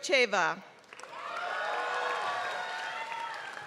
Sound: applause

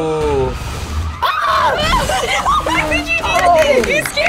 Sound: everyone yelling

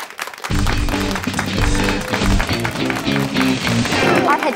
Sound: applause and upbeat music

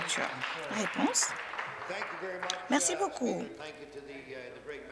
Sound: applause

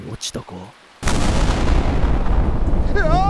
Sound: sound of thunder

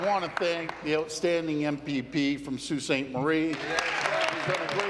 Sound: applause

